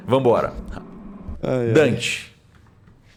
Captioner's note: laugh